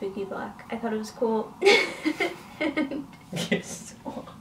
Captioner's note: laughs